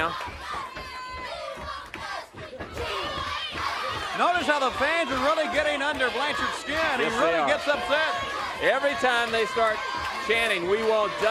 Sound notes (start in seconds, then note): 6.1 crowd cheering